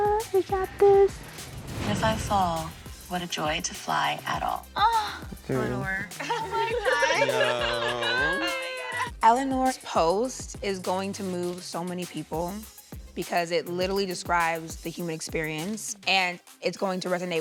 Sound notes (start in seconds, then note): 7.4 indistinct chatter